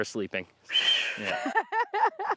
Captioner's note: laughs